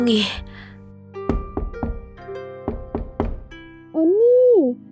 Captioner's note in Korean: 누군가가 문을 두드린다